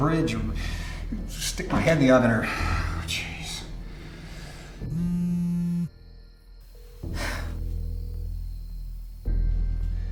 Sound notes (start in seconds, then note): 4.8 cellphone vibrating; 6.5 dramatic music